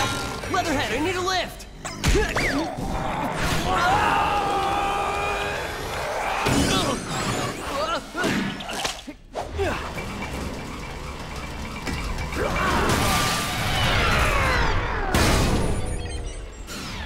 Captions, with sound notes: Leatherhead, I need a lift! [grunting] [grunting]